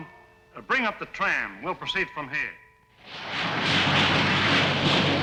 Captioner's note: machine whirring